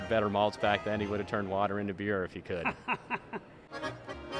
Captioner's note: laughing